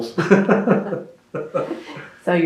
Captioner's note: laughter